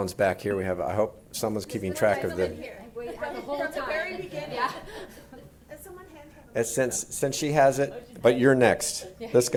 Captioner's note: multiple voices